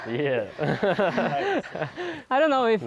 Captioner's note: laughs